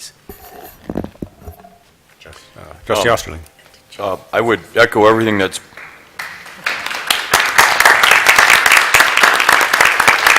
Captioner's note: applause